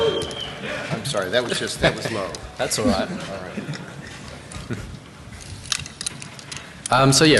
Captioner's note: laughter